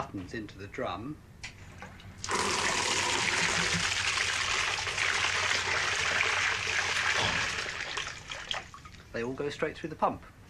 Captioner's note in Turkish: Alkışlar